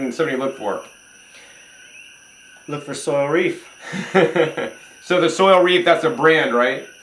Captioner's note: chuckles